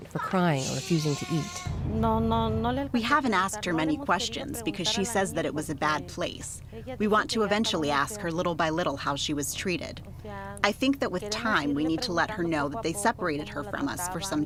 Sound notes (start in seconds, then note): 2.2 through translator